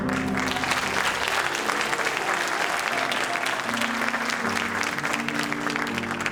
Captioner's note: audience applauding and cheering